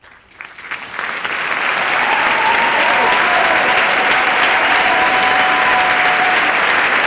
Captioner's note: cheers and applause